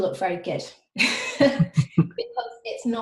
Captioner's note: laughing